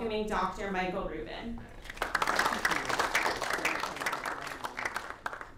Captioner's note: applause